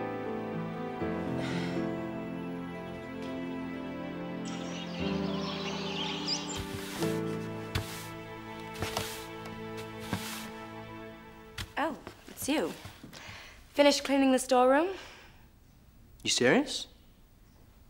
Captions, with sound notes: (birds chirping) (broom rustling along floor) - Oh, it's you. Finish cleaning the storeroom? - You serious?